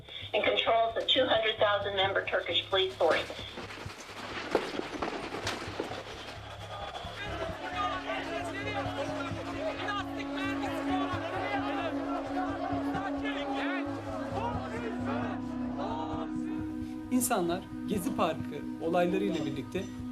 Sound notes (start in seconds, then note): 3.6 gunfire and protesting; 7.7 protestors yelling